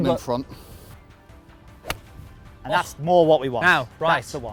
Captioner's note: golf club hitting ball